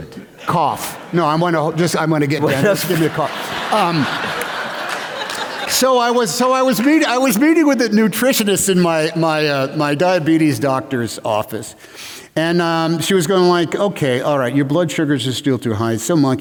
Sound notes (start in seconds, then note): 2.7 laughter